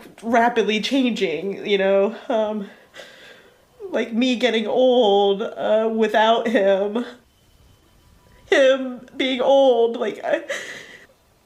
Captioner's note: cries